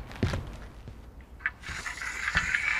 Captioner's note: grinding